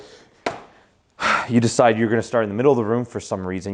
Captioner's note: sighs